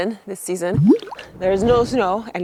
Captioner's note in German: Logo rauscht